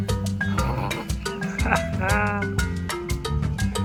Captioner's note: sea otter sneeze!